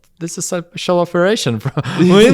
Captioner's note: laughs